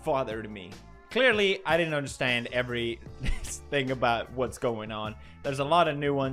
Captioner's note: laugh